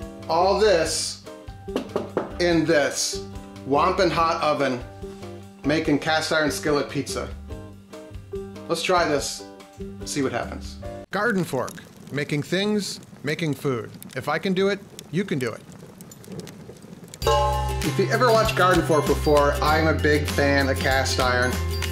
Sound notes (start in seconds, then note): 16.8 metal clanging; 17.2 light hearted music